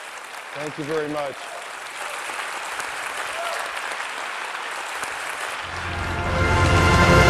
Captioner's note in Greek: Χειροκρότημα